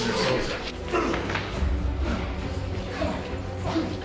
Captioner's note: grunting